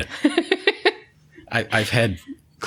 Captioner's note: laughter